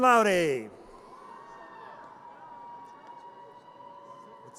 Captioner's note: audience cheers